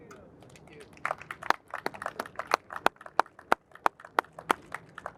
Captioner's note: audience applauds